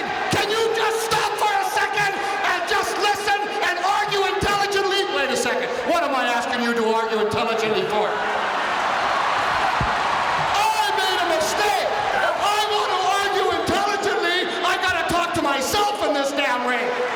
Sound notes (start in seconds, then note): 8.4 audience cheering